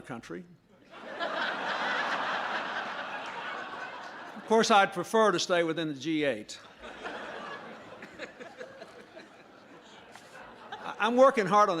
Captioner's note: laughter